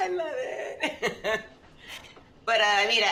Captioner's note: chuckles